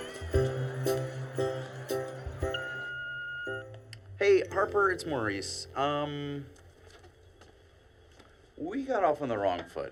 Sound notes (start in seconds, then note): 2.4 voicemail beeps